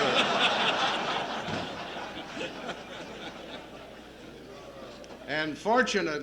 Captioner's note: laughter